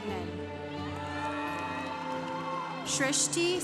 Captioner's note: congregation cheering